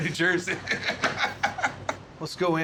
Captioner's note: laughter